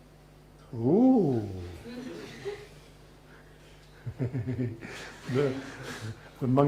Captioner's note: laughs